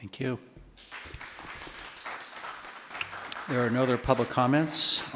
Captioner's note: applause